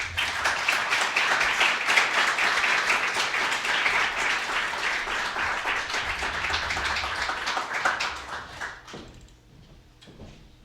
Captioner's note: applause